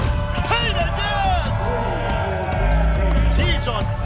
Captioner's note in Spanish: vítores del público